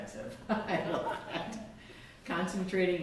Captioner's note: laughs